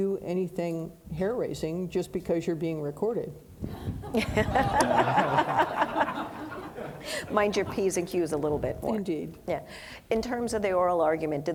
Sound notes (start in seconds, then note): 4.0 audience laughing